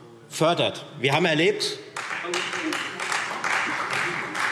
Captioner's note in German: Beifall Freie Demokraten